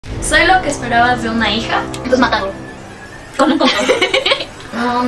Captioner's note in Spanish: risas